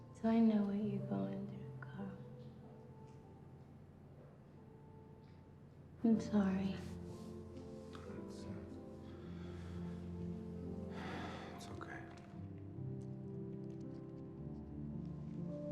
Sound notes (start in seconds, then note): 9.8 Carl sighs